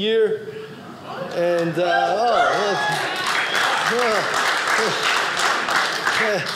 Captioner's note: audience cheering